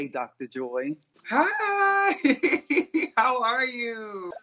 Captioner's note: laughs